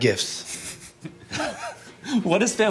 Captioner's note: laughing